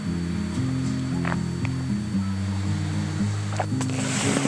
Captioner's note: gulp